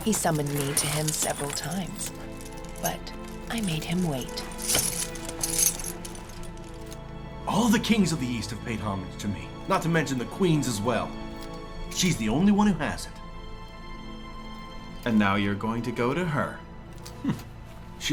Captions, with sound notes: He summoned me to him several times. But I made him wait. (armor rattling) - All of the kings of the east have paid homage to me, not to mention the queens as well. She's the only one who hasn't. - And now you are going to go to her. (scoffs)